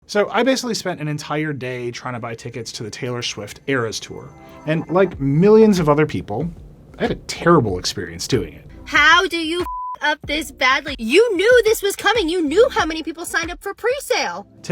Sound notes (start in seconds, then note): 9.6 beep